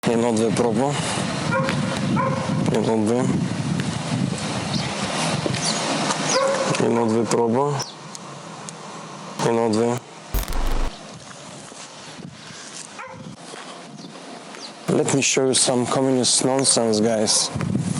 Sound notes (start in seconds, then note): 2.0 Man speaking Bulgarian; 2.0 dog barking